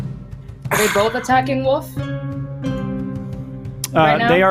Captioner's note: grunts